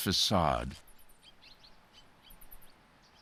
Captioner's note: birds chirping